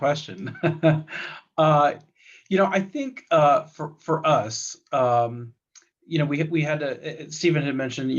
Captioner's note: laughs